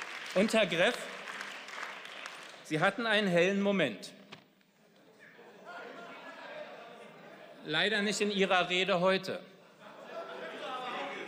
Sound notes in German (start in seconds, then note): 4.9 Lachen